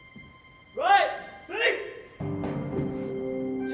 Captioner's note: shouts command